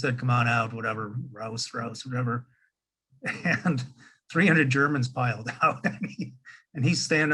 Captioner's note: laughing